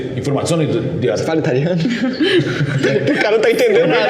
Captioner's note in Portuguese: Risadas